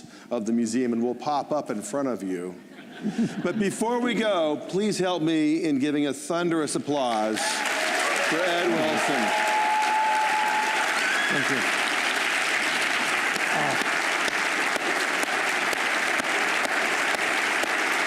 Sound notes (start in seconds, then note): 9.2 applause